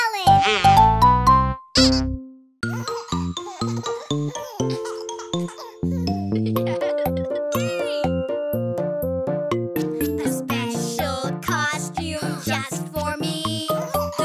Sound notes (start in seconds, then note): 3.0 children giggling; 3.0 upbeat music; 9.1 upbeat music